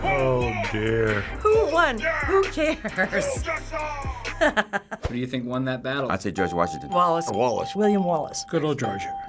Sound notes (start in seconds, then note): 2.0 laughs